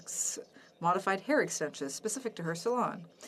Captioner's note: speaking French